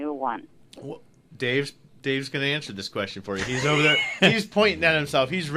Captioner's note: laughs